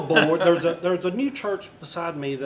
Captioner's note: laughter